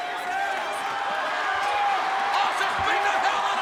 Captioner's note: audience cheers